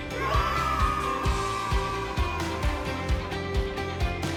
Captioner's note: children yelling YAY!!!